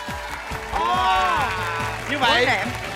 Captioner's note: applause